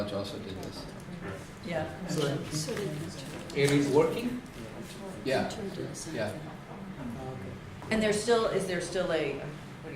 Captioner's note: background Conversation